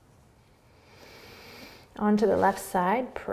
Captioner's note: inhaling